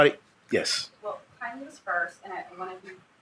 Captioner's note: speaking faintly